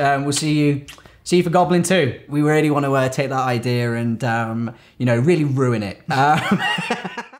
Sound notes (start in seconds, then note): 6.2 laughter trails into the oblivion